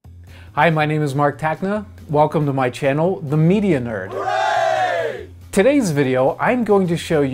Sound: group cheer

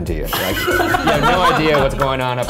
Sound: laughing

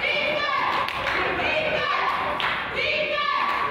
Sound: claps

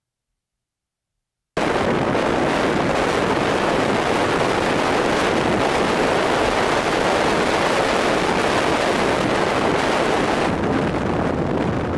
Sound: loud, violent wind

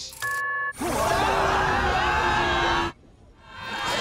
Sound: screaming; grunting

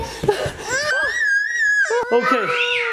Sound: screams

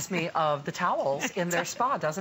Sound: laughter

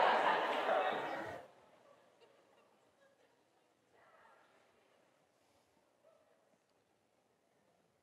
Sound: audience laughs

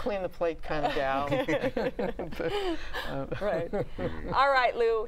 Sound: laughter

